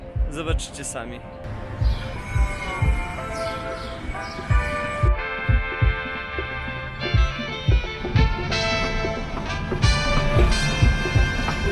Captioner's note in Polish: Aplauz